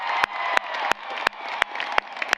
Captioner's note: applause